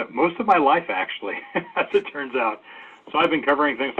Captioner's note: laughs